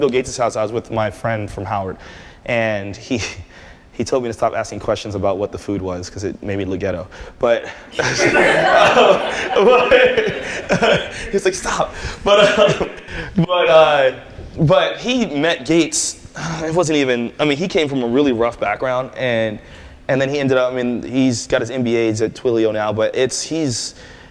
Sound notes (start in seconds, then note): 11.1 laughter